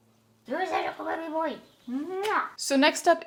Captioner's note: big kissy noise